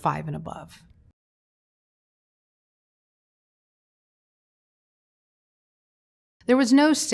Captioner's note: silence